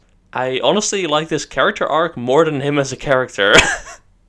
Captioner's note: laughs